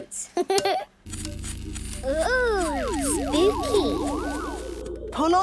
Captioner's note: pulsing